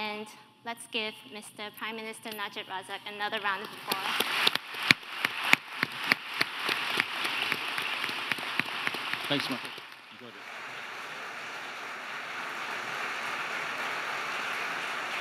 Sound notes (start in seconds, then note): 4.9 audience applauding